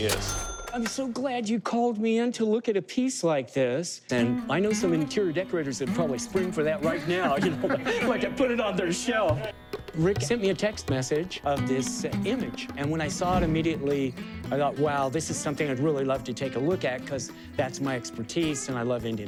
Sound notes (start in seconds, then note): 6.8 laughter